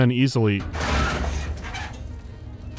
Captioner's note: screech